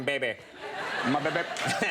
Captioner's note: crowd laughs